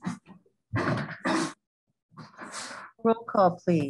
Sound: coughing

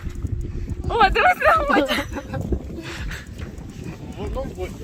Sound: laugh

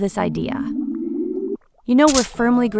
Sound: wand wooshes and cracks

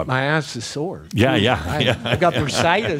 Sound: Adamus chuckles

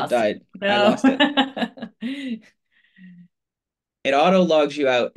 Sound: laughs

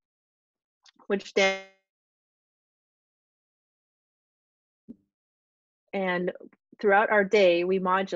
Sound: audio out

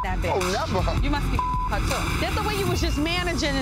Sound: beep

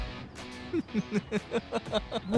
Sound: Gaurav laughs

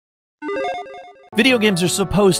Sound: electronic chiming

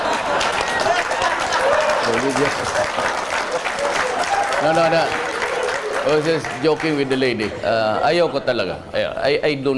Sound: Palakpakan

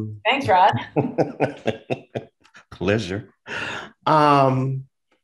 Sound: laughs

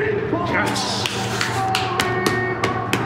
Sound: clapping

